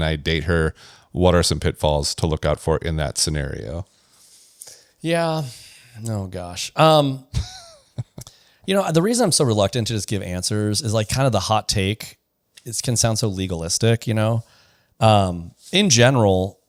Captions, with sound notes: I date her?" What are some pitfalls to look out for in that scenario? Yeah. -Oh gosh. Um- -[laughs] You know, the reason I'm so reluctant to just give answers is like kind of the hot take is, can sound so legalistic, you know? Um, in general,